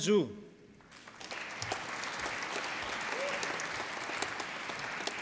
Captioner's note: applause